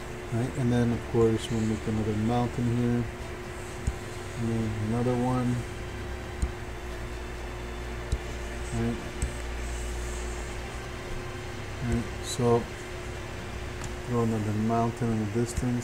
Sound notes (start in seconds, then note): 6.4 computer mouse tapping; 10.4 computer mouse tapping